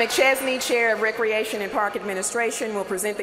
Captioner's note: cheers and applause